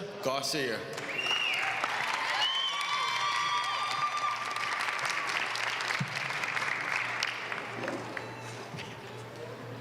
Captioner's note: applause